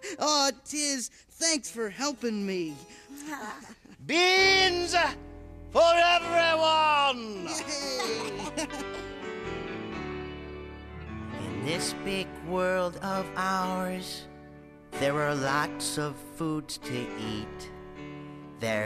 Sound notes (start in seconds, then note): 7.4 Milo and Tizz laughing